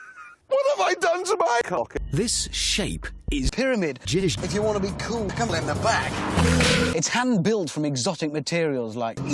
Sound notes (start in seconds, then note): 0.0 laughing; 6.3 stock unedited whip sound effect